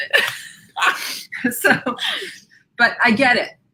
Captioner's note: laughs